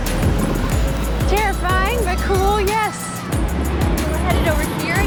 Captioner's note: dangerously busy traffic